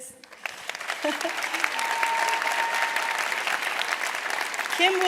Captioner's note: applause and Cheers